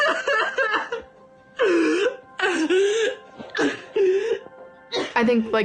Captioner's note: crying